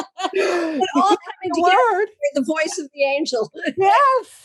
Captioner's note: laugh